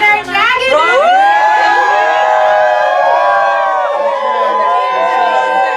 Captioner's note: drowned out by group cheering and yelling